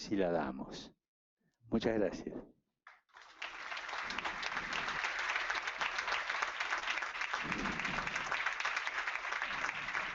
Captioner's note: applause